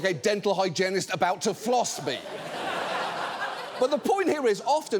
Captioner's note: audience laughs